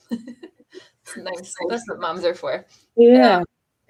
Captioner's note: laughter